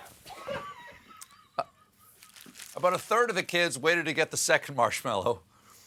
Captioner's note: laughter